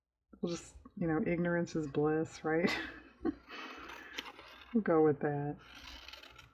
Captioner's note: laughs